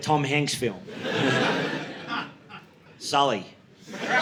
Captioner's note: audience laughing